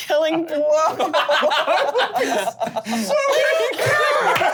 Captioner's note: laughing